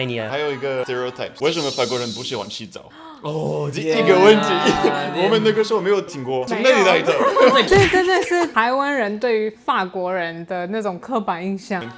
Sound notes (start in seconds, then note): 2.9 gasp